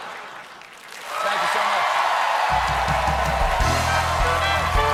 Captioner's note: cheers and applause